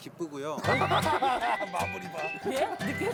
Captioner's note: burst into laugh